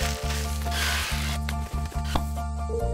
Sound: screech

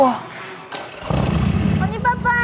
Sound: vroom vroom

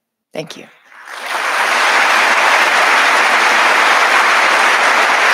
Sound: audience applauding

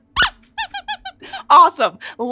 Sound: squeaks squeaking

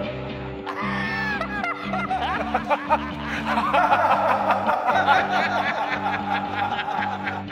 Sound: more laughter

